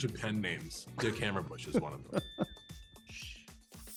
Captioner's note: chuckles